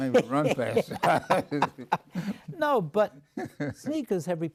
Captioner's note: laughs